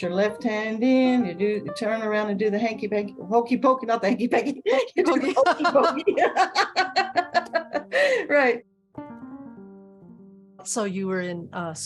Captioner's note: laughter